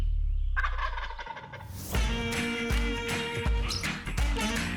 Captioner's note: turkey gobbles